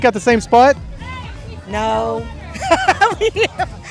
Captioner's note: laughing